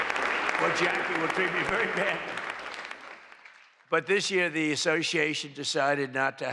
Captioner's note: applause